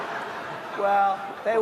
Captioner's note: laughter